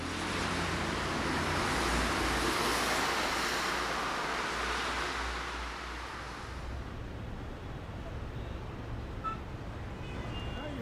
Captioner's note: cars drving by, city noises